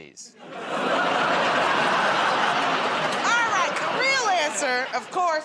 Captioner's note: laughter